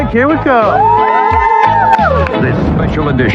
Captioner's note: cheheerering